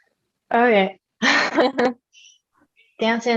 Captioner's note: laughter